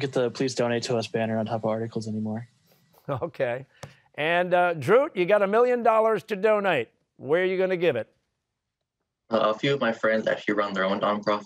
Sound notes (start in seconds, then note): 2.9 chuckling